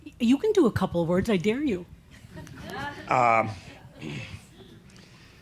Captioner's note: some chuckles